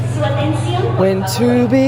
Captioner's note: announcer speaking Spanish